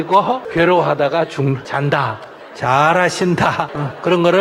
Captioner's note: audience laughter